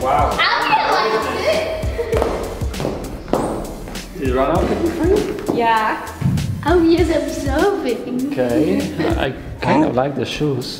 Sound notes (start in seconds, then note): 0.0 squeaking; 2.0 heals stomping; 6.6 sing song dialogue